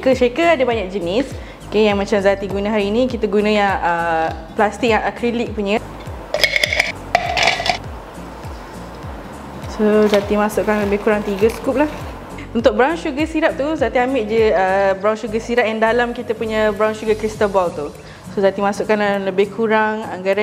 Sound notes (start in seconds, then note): 7.2 ice sounds